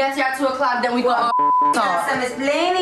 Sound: beep

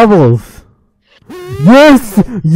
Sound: continues screaming

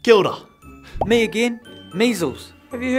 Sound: playful music; bubble popping

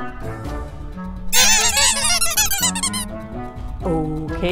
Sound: alien makes a funny squeaky sound

